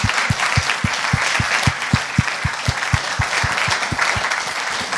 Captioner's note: applause